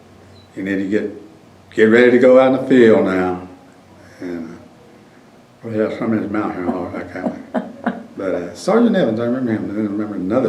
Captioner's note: laughter